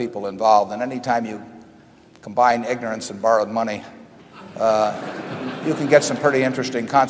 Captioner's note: laughter